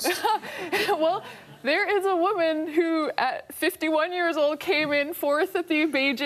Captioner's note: laughs